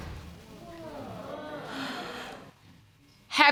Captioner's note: audience groaning